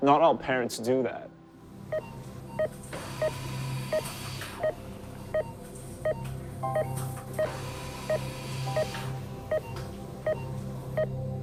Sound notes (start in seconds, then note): 2.2 machines beeping; 7.4 dramatic instrumental music